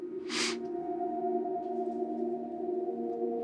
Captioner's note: sniffling